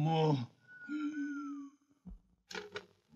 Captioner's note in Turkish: di̇ğeri̇ islik çalar